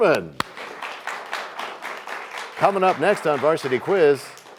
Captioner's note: applause